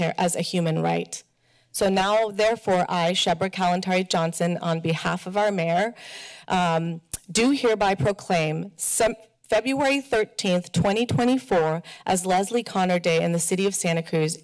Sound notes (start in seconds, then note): none